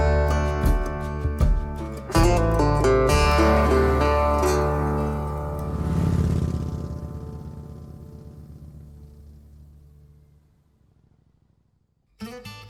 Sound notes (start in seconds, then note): 6.1 motorbike roaring